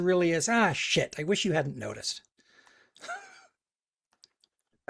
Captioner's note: laughs